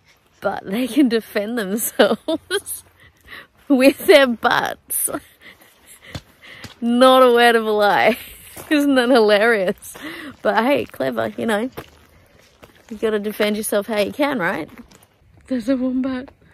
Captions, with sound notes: but they can defend themselves [laughing] with their butts. Not a word of a lie. [laughing] Isn't that hilarious? But hey, clever. You know, you've gotta defend yourself how you can, right? There's a wombat!